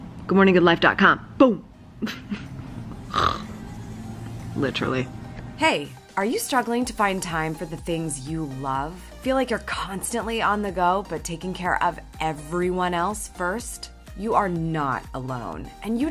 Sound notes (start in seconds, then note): 2.0 giggles; 3.0 snores